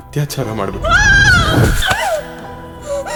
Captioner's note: crying in fear